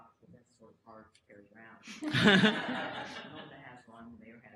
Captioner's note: audience laughter